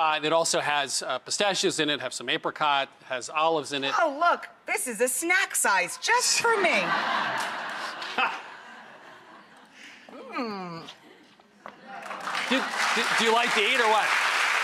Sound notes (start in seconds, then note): 6.5 laughter; 12.0 clapping